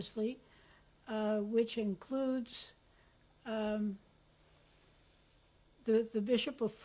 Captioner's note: pauses for 3 seconds